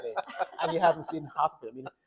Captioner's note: doctors laughing